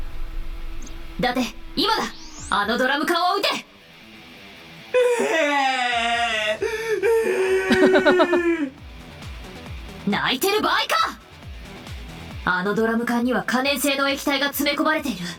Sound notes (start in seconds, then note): 6.5 chuckles